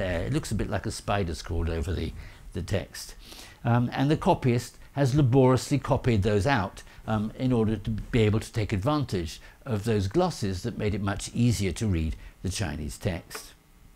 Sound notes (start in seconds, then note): none